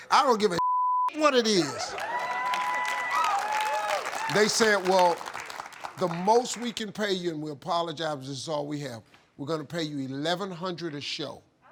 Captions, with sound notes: I don't give a (beep) what it is. (audience applauding) They said, "Well, the most we can pay you and we'll apologize is all we have. We're gonna pay you 1,100 a show."